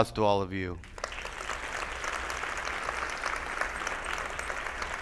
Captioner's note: attendees applauding